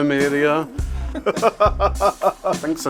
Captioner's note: laughs